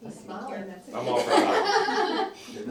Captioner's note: laughter